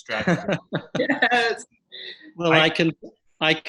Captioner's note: laughs